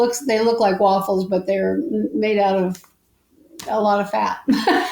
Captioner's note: laughs